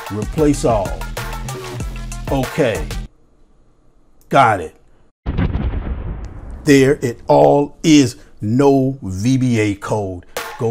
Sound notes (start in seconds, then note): 5.2 bomb exploding